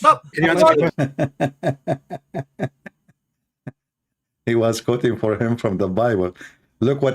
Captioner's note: Ketawa